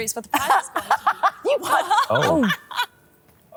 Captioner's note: all laughing